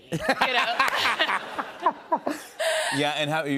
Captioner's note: laughter